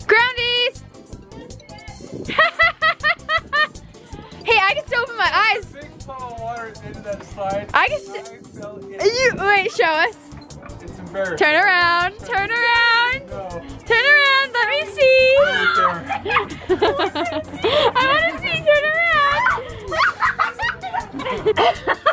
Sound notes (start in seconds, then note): 2.2 laughing; 15.3 laughing